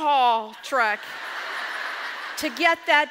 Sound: audience laughs

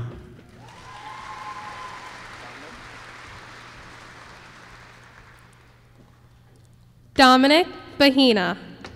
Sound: applause

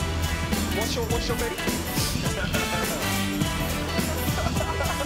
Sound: upbeat music; chattering

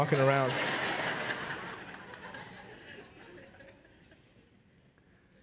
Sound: congregation laugh

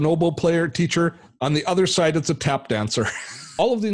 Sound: chuckles

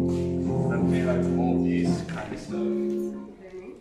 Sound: soft boi speaks softly

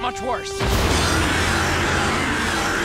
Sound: screeching

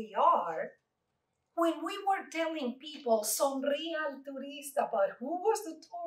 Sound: Spanish

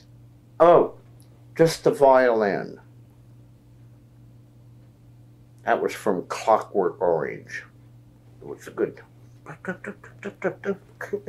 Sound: imitates music

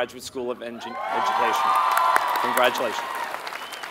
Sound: applause

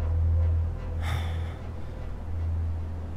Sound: Shorya gasps

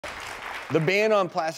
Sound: applauding

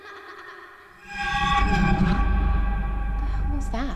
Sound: child laughing; eerie sound

